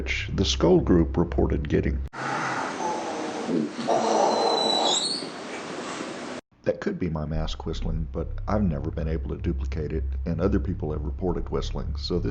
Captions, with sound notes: the Scole Group reported getting [ groans, EVPs, loud whistle ] That could be my mask whistling but I've never been able to duplicate it and other people have reported whistling